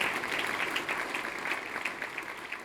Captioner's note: applause